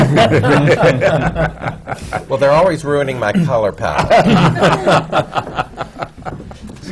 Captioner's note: laughter; laughter